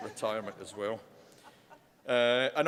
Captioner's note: laughter